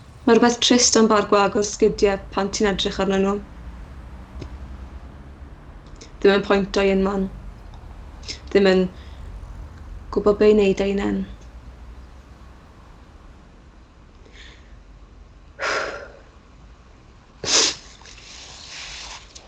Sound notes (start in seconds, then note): 15.6 she sniffs